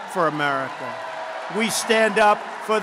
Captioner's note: applause